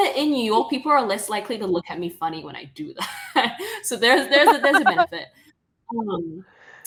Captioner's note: laughing